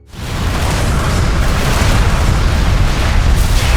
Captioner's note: explosion thunders